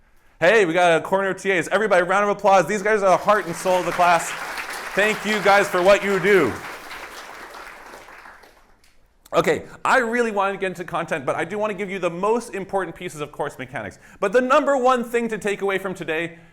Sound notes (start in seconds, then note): 4.3 applause